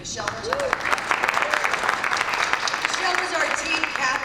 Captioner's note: applause and cheers